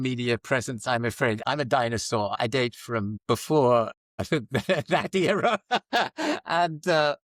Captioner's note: laughs